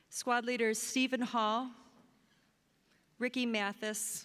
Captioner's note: none